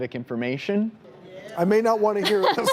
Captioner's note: audience responds; laughs